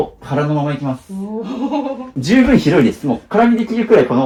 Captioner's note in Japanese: 笑い